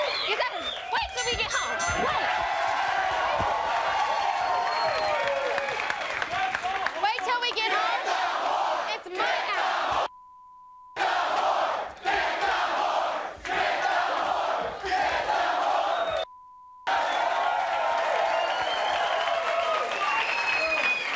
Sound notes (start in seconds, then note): 1.1 bell dinging; 1.9 audience cheering; 10.1 beep; 16.1 beep; 16.8 audience cheering